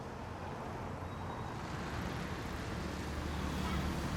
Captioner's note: cars passing